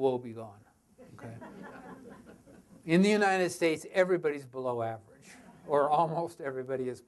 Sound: audience laughter

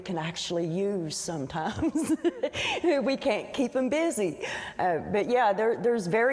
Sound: laughs

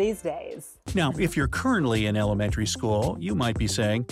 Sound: voice-over

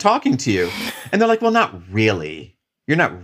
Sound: chuckles

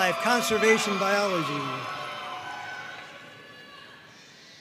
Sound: audience cheering

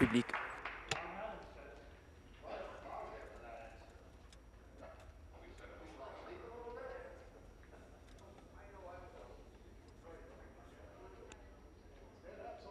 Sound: applause

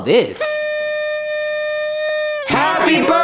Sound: blow horn whistling

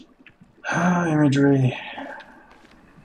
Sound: sighing

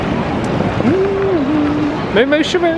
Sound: humming

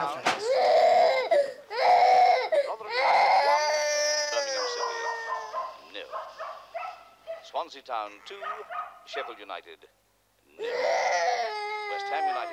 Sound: Valerie cries

